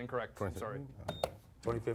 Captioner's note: beep